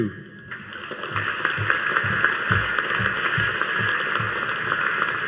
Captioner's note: audience applauding